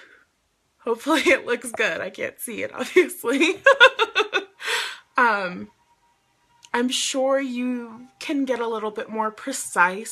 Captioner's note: laughs